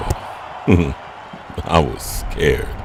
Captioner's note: chuckling